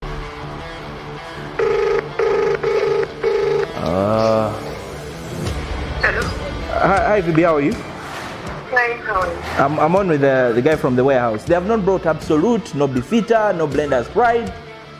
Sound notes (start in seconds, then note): 0.1 tense rock music; 1.6 phone dialing; 1.6 groans